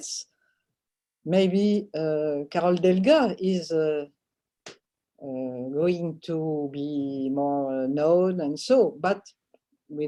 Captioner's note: french